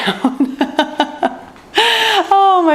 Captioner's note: laughs